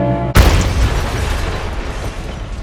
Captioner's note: crash